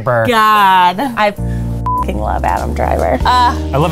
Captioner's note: beeps